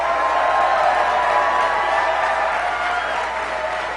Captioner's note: applause